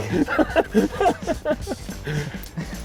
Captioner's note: laughs